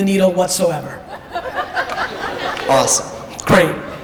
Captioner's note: audience laughter